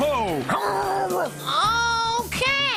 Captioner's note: zeppo grunts